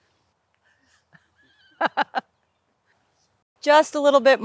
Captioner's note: laughing